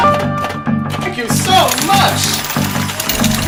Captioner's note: jackpot and coins dispensing